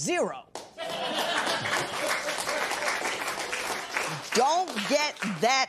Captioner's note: laughter and applause